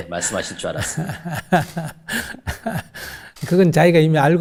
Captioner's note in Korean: 질문자와 스님 웃음